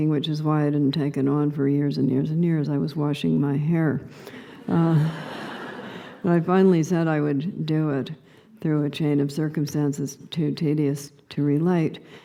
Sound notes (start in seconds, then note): 4.9 laughter